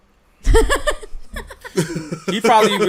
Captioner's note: giggling